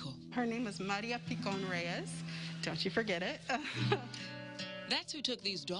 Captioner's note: laugh